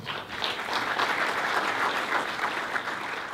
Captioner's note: applause